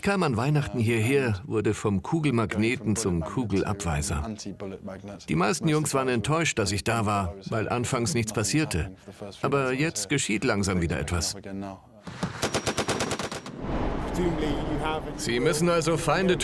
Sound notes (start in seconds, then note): 12.1 gun firing; 13.8 voiceover